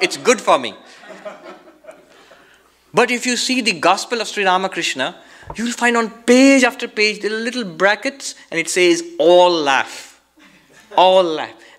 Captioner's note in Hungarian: mindenki nevet